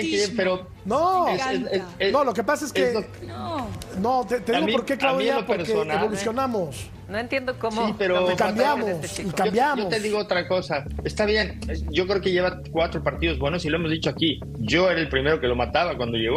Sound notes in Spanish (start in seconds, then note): 1.3 todos hablando